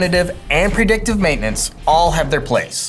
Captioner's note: boxes whooshing; text whooshing